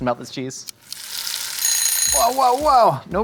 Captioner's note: timer rings